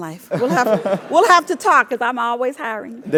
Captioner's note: laugh